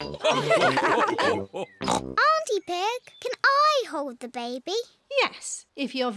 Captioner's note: all laugh